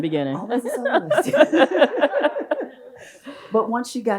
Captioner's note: both laugh